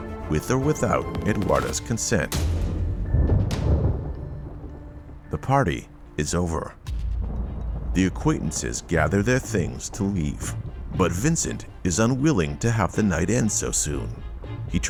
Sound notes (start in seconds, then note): 3.0 ominous music; 3.0 thunder rumbles